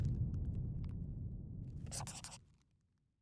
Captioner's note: scribbling